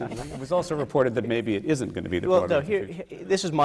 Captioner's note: laughter